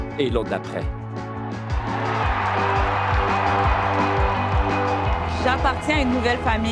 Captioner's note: cheers; applause